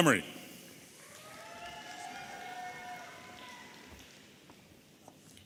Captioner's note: audience applauding and cheering